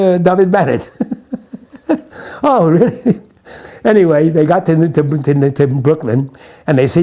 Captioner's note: laughs